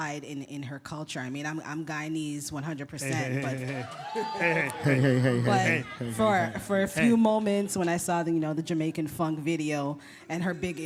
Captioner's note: laughter